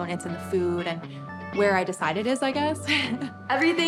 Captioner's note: laughs